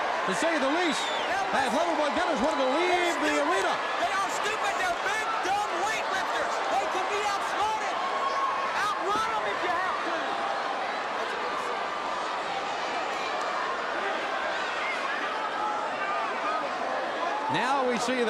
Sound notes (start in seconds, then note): 4.5 crowd cheering